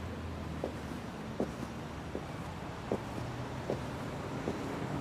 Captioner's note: footsteps thumping